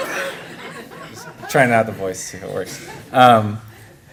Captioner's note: laughter